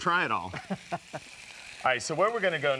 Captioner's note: laughs